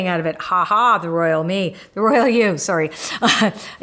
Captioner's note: laughs